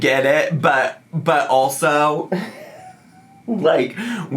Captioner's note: laughs